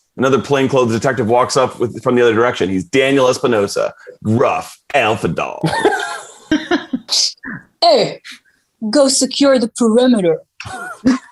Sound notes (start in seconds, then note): 5.6 everyone laughing